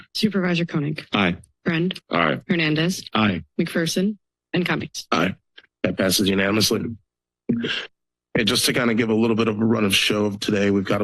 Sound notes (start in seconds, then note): 7.4 pause